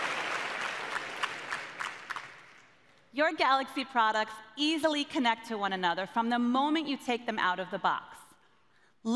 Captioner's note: cheers & applause